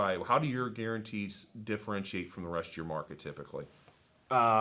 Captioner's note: none